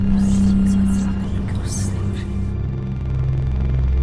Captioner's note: sinister chattering; pensive music